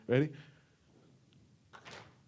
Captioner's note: stomp; clap